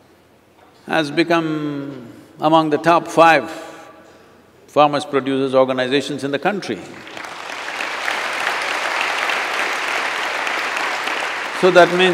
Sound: applause

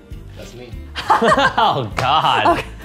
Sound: laughs

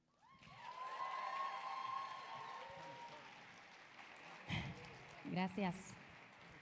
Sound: audience applauding; audience cheering

